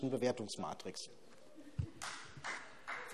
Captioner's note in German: Vereinzelter Beifall BÜNDNIS 90/DIE GRÜNEN